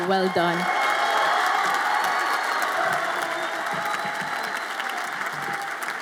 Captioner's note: audience applauds and cheers